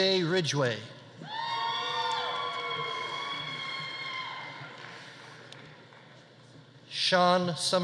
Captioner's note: audience cheering; audience applauding